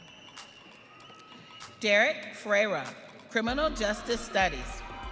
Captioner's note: audience cheering